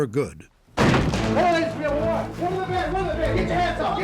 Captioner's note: shouting